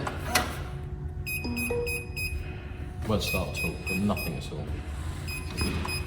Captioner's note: beep beep beep beep